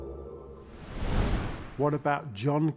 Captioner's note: wind whooshing